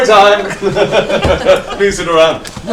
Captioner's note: all laugh